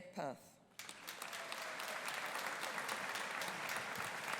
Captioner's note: audience applauding